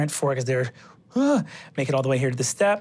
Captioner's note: gasps